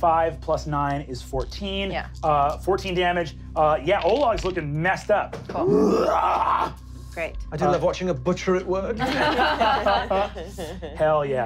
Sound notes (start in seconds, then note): 5.6 growling; 9.0 laughing